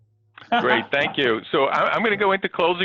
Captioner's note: laughing